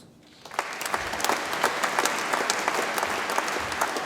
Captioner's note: audience applauds